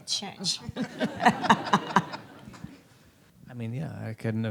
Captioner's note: audience laughs